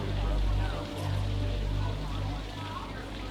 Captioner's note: none